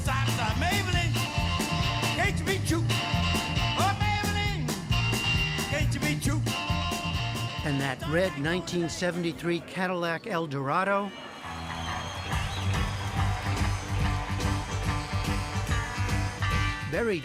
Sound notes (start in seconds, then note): 2.8 voice-over